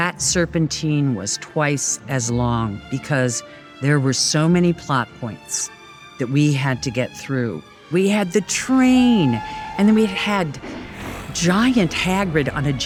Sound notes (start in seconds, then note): 8.3 train whistle blowing